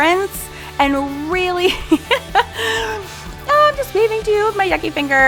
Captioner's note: laughs